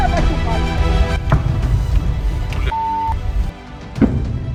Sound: explosion

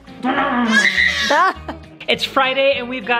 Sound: baby crying

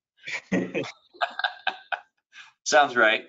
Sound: laughter

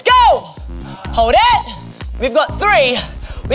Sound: moaning

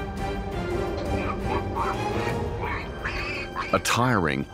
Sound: piglet squeals

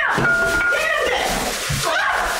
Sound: plastic rustling; bat clanging

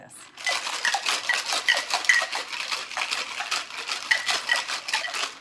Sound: ice shaking in cocktail shaker

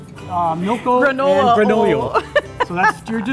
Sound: laughs

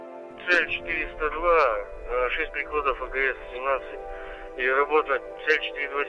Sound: radio exchange

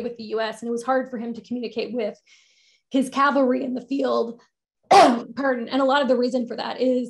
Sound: coughs

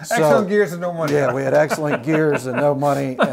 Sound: laughs

